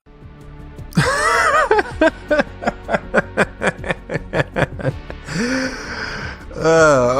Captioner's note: laughs